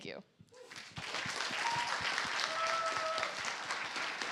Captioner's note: applause